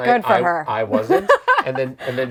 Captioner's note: laughs